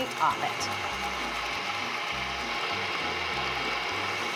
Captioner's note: mixer whizzes